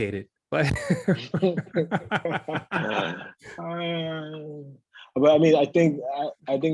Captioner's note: laugh